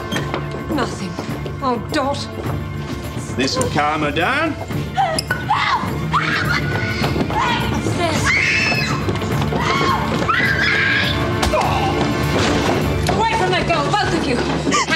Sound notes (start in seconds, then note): 9.4 groans; 9.5 Dot screams; 11.4 thwack!